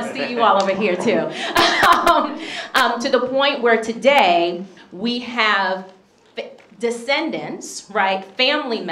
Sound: laughs

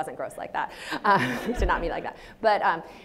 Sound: audience laughs

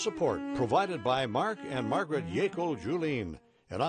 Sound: voiceover

